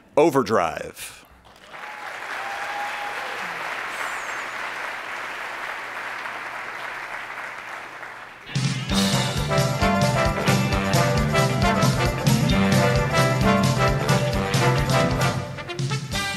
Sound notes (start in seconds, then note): 1.4 attendees applauding; 8.5 lively jazz music